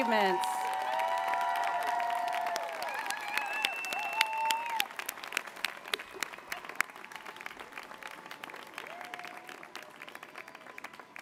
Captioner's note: applause